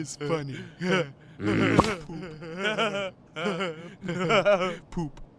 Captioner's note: the villagers begin laughing; laughter continues; POOPLOSER_69 groans angrily